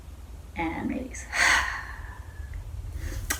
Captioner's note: exhales